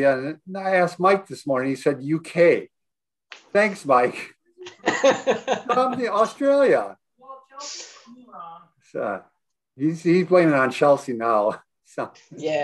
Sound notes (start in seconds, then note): 4.6 laughs